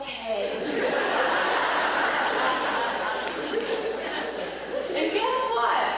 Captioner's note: laughter